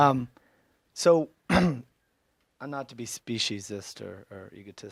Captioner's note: clears throat